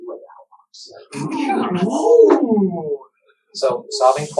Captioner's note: oooh!